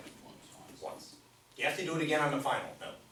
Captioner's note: voiceover